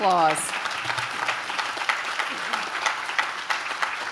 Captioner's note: audience claps